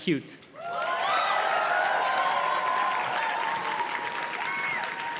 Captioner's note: audience cheers and claps